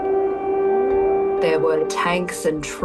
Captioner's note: air raid alarm